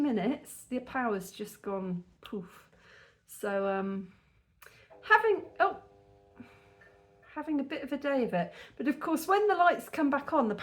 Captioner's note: buzzing